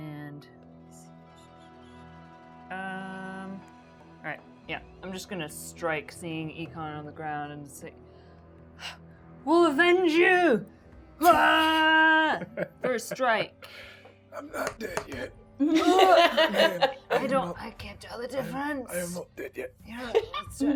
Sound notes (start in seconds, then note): 11.2 yells